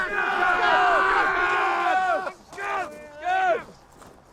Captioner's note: the yelling settles down